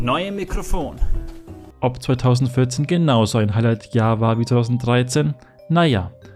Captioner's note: voiceover